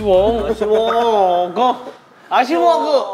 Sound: hehe

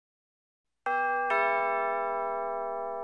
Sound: doorbell rings

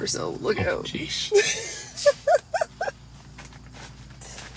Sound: laughing

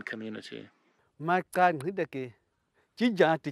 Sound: non-english speech

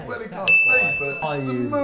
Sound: ding

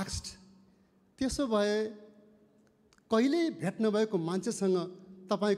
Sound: speaking in foreign language

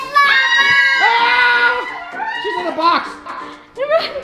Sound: shouting

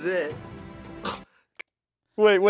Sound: scoffs

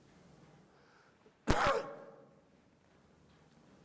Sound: coughs

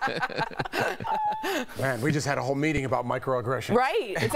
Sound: laughter

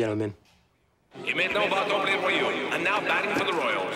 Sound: voice over loudspeaker, in French followed by English

